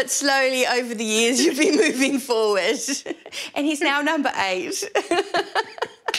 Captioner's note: laughter